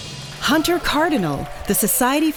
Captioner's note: applause